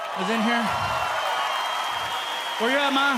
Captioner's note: audience cheering